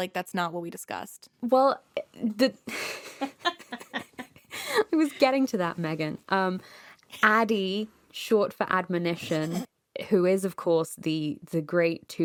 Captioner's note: laughs